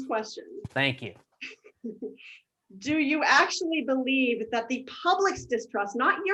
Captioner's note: laughs